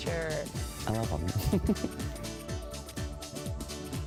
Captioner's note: laughs